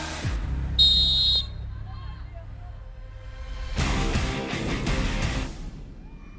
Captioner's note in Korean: 호루라기 소리